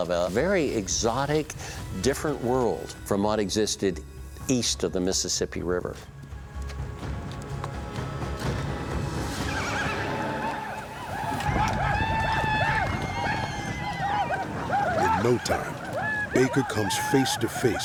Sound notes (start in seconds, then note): 9.3 war cries